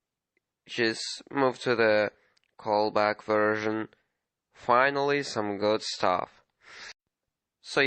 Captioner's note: cut off sniff